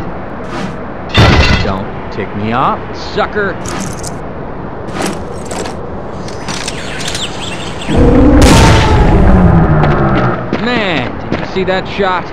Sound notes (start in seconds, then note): 1.1 metal Falling; 8.4 Desert Eagle Shot!; 8.8 gargantua screams in pain